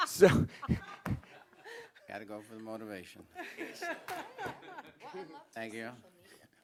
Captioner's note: laughter